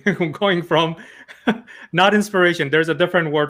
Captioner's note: laughs